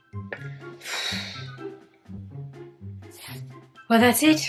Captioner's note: exhaling deeply